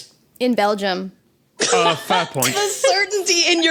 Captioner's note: laughs uproariously